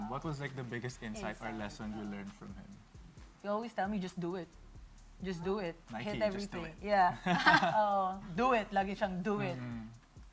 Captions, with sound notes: what was the biggest lesson you learned from him? He always tells me to just do it. - Just do it. - Nike, "Just do it." - Yeah. - [CHUCKLES] - He's always like, "Do it." - Mm-hmm.